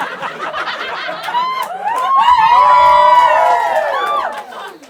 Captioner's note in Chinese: 欢呼